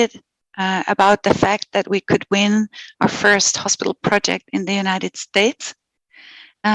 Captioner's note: non-english speech